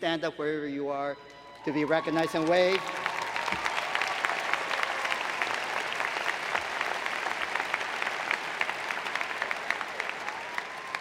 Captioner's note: applause